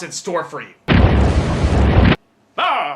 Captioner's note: time Warping SFX